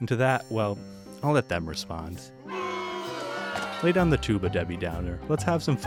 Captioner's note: crowd boo-ing